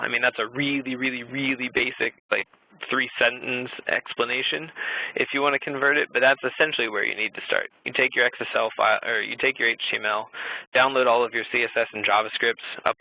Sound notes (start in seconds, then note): none